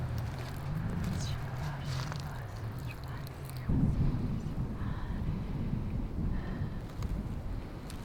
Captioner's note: Carlota, Whispered ritualistic words